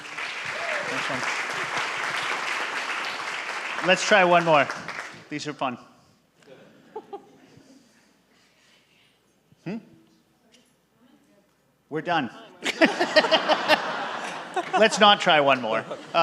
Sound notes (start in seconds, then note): 0.0 audience applaud; 12.6 all laugh